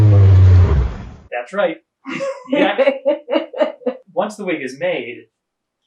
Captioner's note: laughing